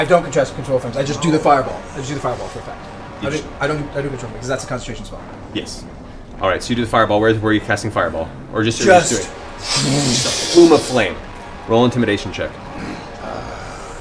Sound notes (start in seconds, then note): 0.0 pff; 10.2 fwoosh